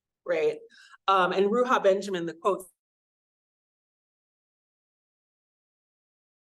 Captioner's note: audio cuts out